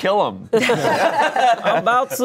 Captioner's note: everyone laughs